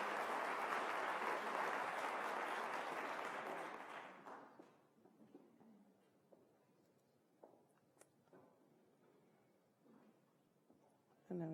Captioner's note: applause